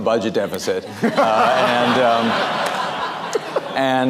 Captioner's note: laughter